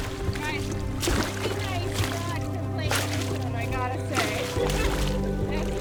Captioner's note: indistinct distant chattering